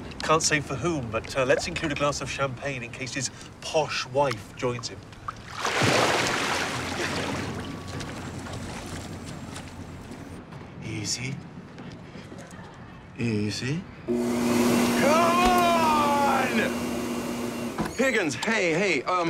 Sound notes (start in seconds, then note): 13.8 click, air whirring